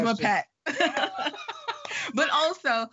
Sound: laughing

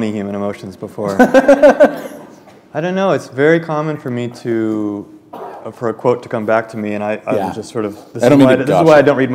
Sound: chuckle

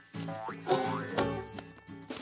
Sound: giggles

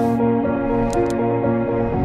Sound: mouse clicking

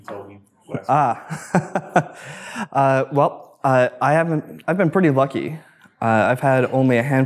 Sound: laughs

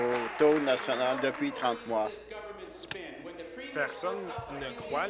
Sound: applause

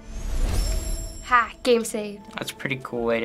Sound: save chime

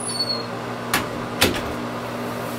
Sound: door closes

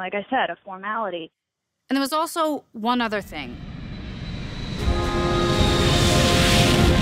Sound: jet sounds; epic music

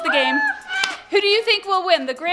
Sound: kids crying out

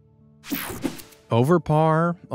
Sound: images whooshing

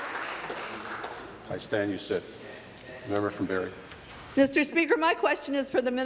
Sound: applause

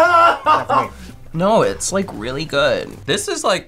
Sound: laughing

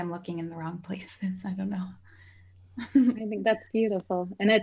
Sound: laughs

